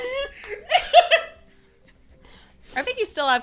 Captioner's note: laughter